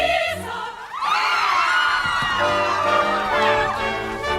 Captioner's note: GIRLS scream